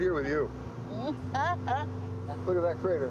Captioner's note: Madam President laughs